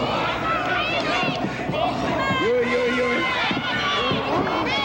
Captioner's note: audience cheering